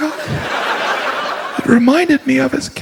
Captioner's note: audience laughs